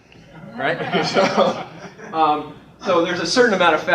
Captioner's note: laughter